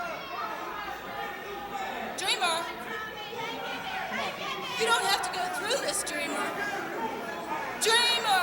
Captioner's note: crowd chatter